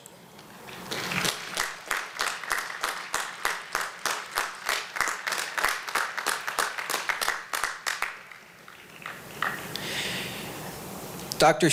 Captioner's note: applause